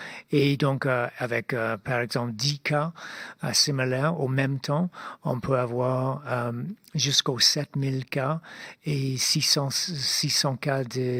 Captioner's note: speaking French